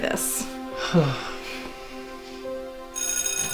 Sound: Nathan : sigh of contentment

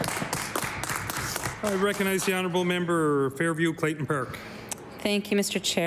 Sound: applause

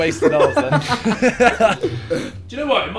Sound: group laughing

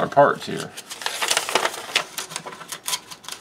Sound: paper crinkles

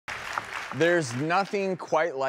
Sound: crowd applauding

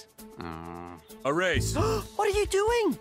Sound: both gasp

